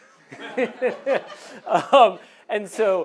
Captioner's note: audience laughing